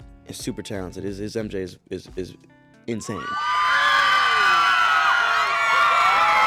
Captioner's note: fans screaming